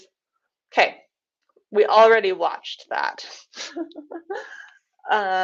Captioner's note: laughs